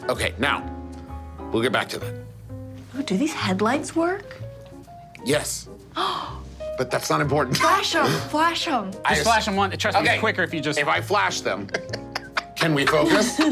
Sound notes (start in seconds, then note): 5.9 gasping; 11.6 laughing